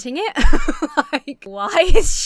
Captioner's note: laughs